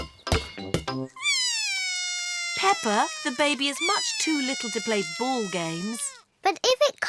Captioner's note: bawls